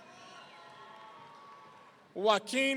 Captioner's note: audience cheering